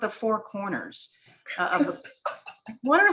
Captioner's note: laughter